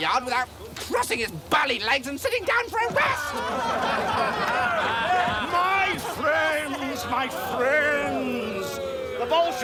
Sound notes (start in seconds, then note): 3.1 laughter